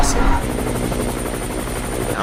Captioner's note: helicopter